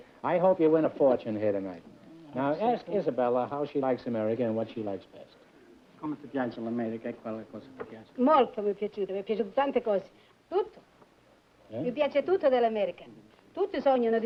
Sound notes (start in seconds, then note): 6.0 speaking italian